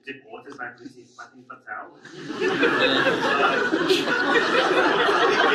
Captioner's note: audience laughs